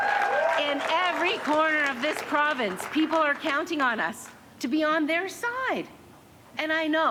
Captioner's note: cheers and applause